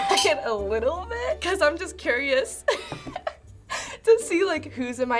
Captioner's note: laughing